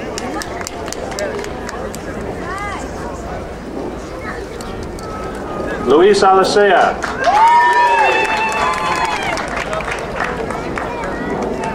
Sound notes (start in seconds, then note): 0.0 crowd applauding; 6.8 crowd cheering